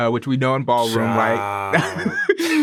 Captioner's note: laughs